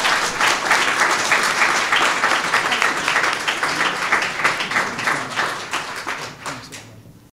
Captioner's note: applause